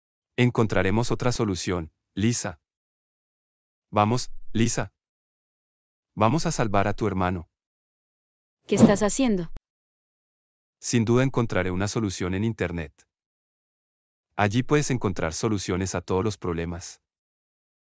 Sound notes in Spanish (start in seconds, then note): 8.5 FX - Whoosh - 03